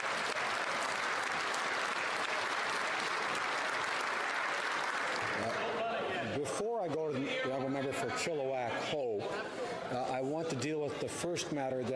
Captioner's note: cheering and Applause